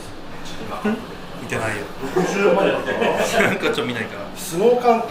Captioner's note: laughs